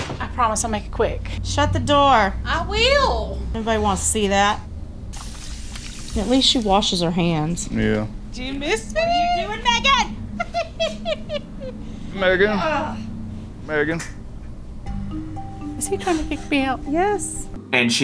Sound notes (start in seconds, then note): 5.1 water splashing; 9.8 laughing; 14.1 whimsical music